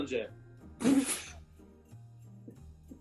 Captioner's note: splutters